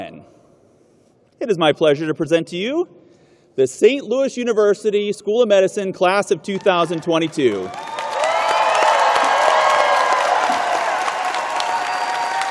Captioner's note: cheers and applause